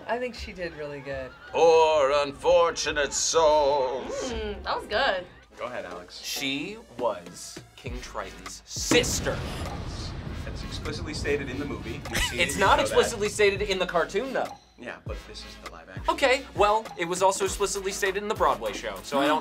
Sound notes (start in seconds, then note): 8.8 explosion echoes